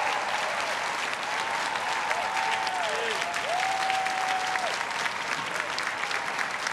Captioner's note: everyone cheering and applauding